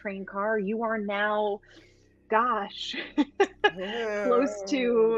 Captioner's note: laughs